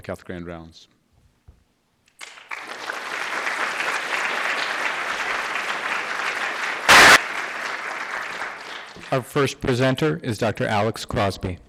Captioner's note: applause